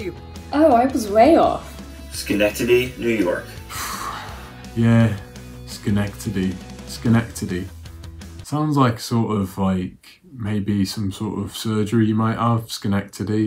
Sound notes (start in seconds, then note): 3.5 sighs